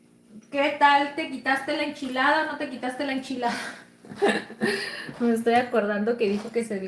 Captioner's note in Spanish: risas